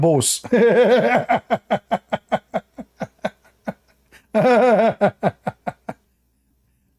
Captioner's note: Ketawa